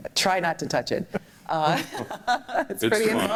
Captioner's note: laughter